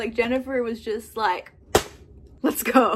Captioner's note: slap